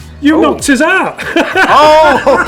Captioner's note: laughter